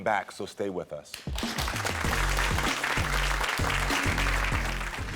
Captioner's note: audience applaud